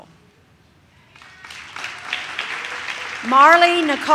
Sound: audience claps

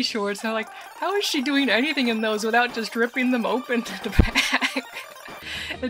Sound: laughing

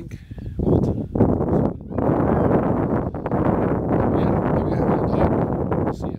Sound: wind

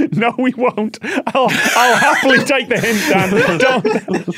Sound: laugh

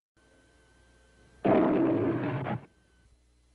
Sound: silence; Leo the Lion roaring

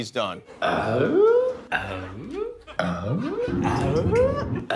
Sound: grunting

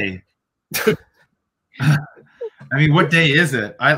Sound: laughs

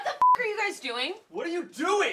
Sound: beep

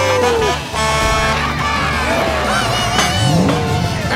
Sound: cheering

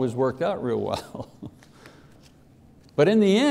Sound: laughs

